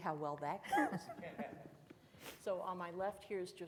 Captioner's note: chuckles loudly